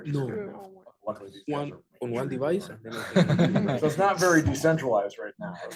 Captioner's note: laughing